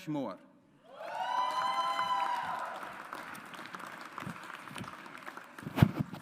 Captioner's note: audience applauds